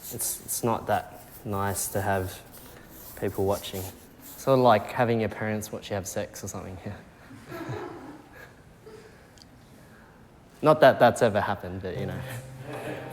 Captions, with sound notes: It's not that nice to have people watching, sort of like having your parents watch you have sex or something, yeah. (People chuckling) Not that that's ever happened, but you know.